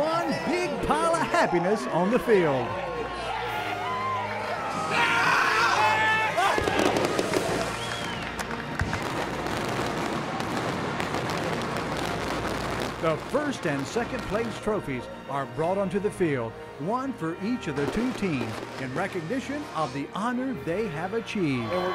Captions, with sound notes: That's one big pile of happiness on the field [ Joyful shouting ] [ Fireworks exploding ] The first and second place trophies are brought onto the field, one for each of the two teams in recognition of the honor they have achieved